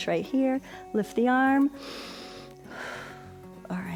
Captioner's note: inhales and exhales